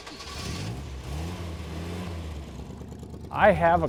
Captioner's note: engine starting